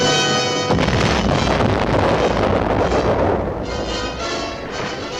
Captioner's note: explosion booming